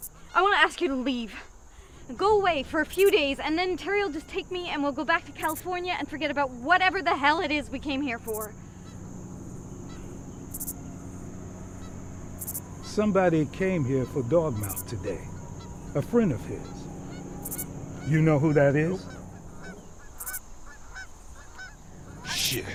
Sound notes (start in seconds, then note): 9.5 insects chirping; 19.4 birds cawing